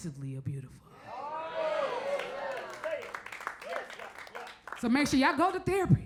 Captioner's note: crowd murmurs; crowd applauds